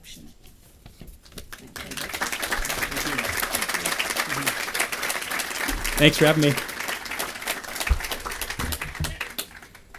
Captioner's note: applause